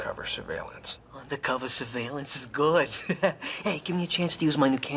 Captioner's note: chuckling